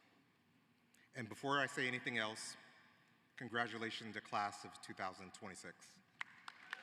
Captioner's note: applause